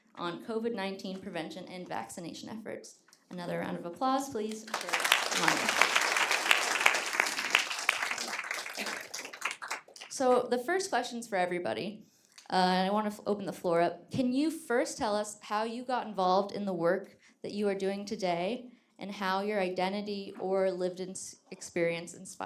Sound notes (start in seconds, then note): 4.5 audience applauding